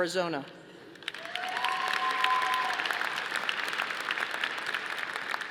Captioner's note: audience applauding